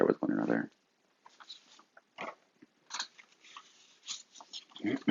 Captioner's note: papers fluttering